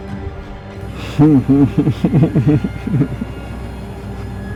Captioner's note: chuckles, whistles